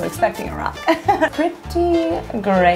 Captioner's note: laughs